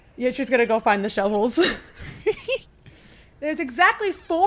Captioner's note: giggles; chuckles